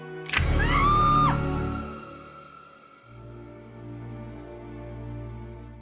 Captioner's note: screaming; knife clicking